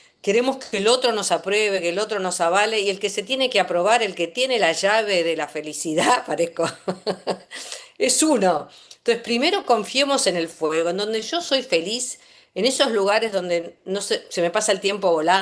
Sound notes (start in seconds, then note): 6.7 laughs